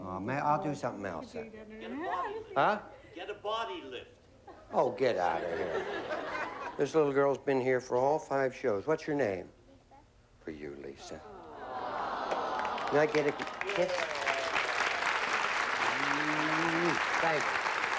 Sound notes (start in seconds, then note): 9.7 mumbling; 13.7 applause